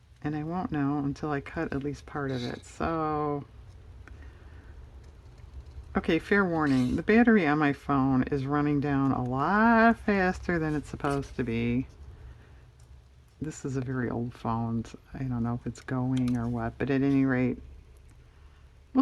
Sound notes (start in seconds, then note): none